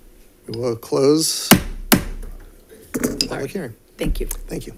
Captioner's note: gavel bangs